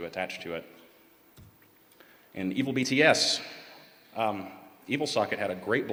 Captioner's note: none